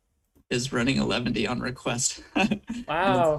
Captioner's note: chuckles